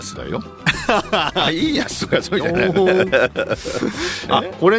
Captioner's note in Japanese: 笑い